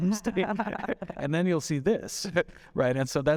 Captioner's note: chuckling